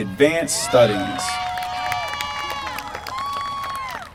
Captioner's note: applause